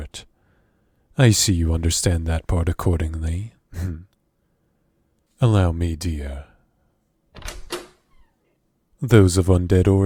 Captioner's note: door opens